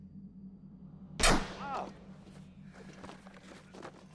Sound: gunshot

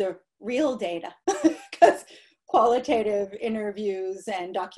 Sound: laughter

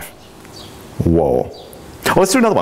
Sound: birds chirping

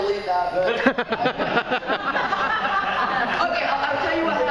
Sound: laughing

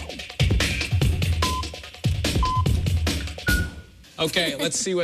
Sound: electronic beeping

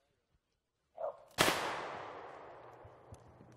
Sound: gunshot

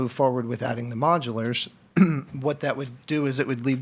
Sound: clears throat

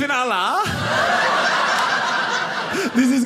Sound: audience laughing

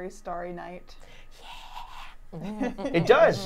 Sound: humming

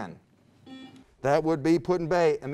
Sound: buzzer beeps

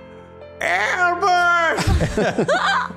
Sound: moped Yells; laughs

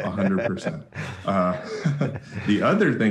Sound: laughs

